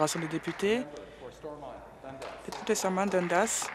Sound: applause

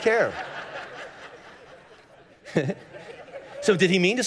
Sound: congregation laughing

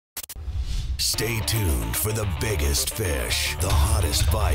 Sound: intense music; voiceover

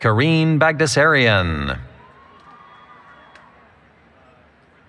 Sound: cheering

